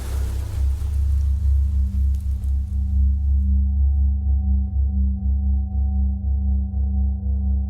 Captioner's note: static electronic sounds